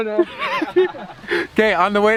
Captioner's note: laughing